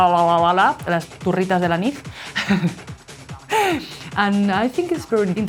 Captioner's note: laughs